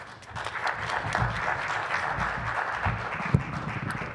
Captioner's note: applause